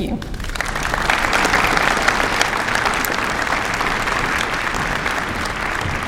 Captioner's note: applause